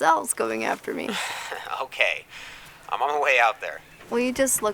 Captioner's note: laughs